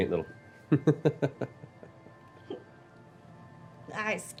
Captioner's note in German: Kichern